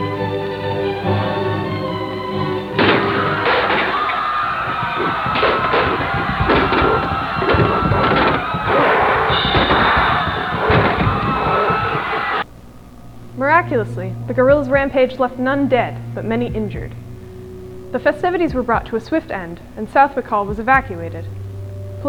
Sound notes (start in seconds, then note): 2.7 muffled sounds of gorilla violence; 2.8 crash, crowd screaming